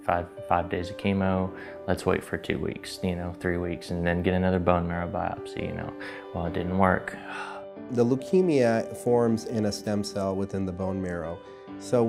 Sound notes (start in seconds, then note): 7.2 sighs